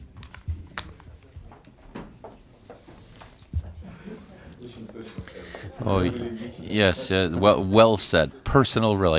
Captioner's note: through translator